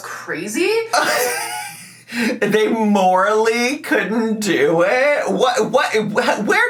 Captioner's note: laughs